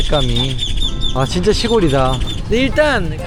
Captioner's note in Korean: 새 울음소리만 가득